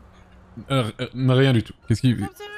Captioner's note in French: Dona balbutie